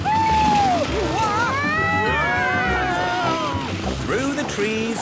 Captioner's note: all screaming excitedly